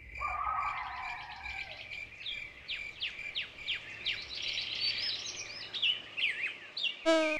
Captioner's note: crickets chirping, coyotes baying, birds singing